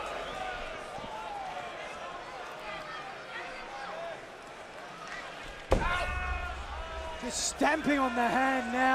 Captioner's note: crowd chatter